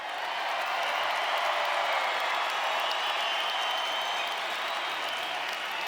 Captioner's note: audience cheering and applauding